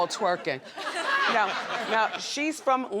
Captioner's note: audience laughs